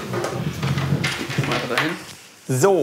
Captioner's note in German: Klappern